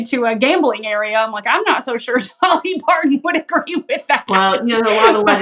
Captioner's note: laugh